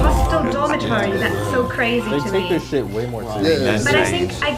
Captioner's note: water splashing